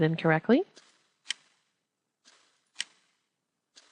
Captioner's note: clicking